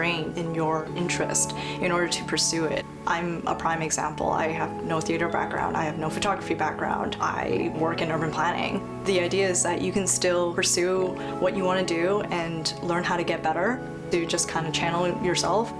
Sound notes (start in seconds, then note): none